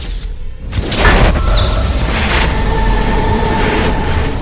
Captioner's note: electricity sparking